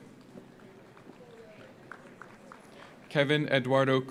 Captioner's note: audience applauds